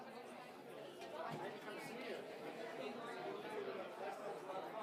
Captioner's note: people chattering